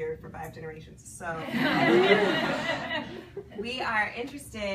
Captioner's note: people laugh